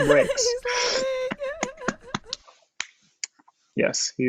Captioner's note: laughs